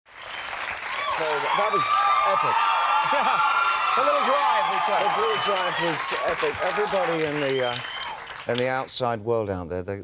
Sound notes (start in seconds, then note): 0.0 audience cheering; 3.0 Conan laughs